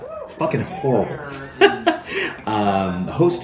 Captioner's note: laughs